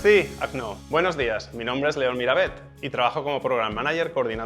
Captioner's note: speaking Spanish